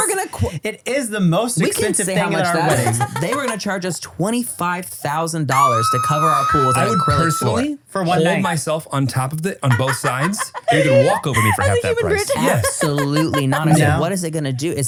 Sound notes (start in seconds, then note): 5.6 squeals